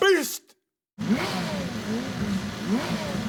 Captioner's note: engines revving